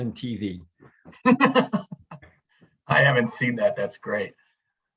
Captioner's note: laughs